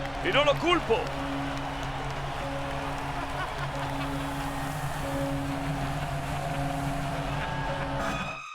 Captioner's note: applause